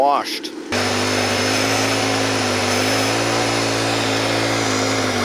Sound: machine humming

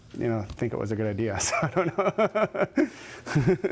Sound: laughing

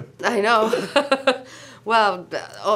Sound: laughs

